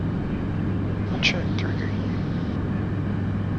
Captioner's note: engine de accelerating